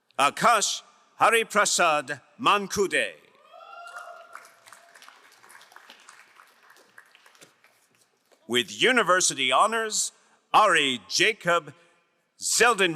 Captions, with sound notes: Akash Hariprashad Mankude. (crowd cheering and applauding) With university honors, Ari Jacob Zeldenrich.